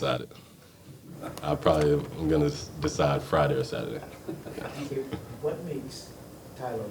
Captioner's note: laughing